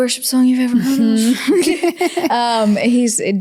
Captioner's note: both laugh